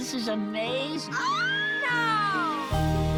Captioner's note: squeals; upbeat music